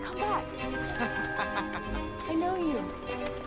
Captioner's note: man laughing